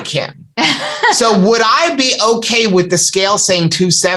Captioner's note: laughter